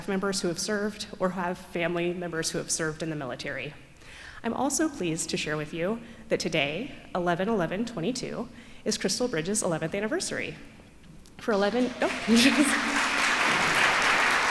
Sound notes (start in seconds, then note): 11.5 applause